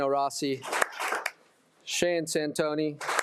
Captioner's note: attendees applauding